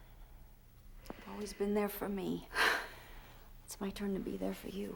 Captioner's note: sighs